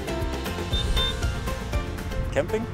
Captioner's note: honk